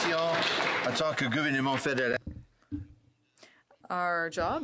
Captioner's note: some Applause